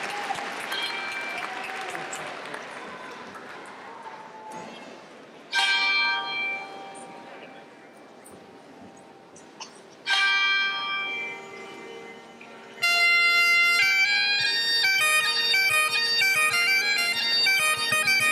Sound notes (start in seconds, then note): 0.0 applause; 0.9 bell rings 3 times; 12.7 bagpipe music